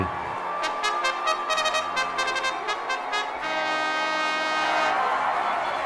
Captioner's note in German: Bugle Call zu veröffentlichen, Menge jubelt